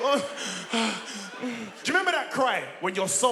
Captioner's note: both laughing